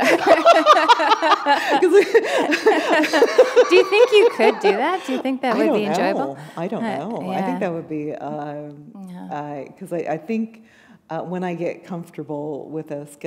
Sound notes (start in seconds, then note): 2.8 laughter